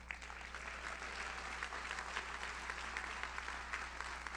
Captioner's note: audience applauds